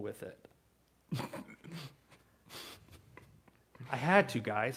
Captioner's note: chuckles